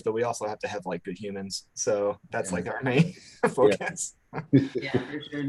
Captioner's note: laughs